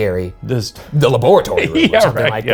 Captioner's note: laughs